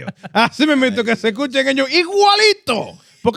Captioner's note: speaking In Foreign Language